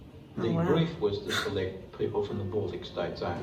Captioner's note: scoffs